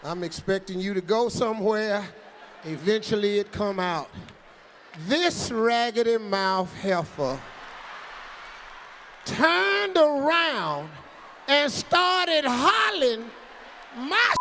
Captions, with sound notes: I'm expecting you to go somewhere. Eventually it come out. This raggedy-mouth heifer (audience cheering) Turned around and started hollerin' my (beep)